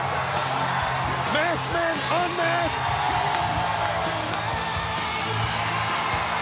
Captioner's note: crowd cheering; exciting rock music continues